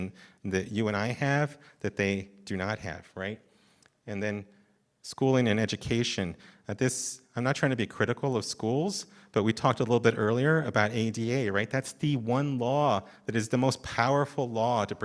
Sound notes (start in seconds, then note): none